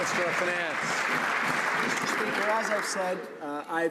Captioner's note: some Applause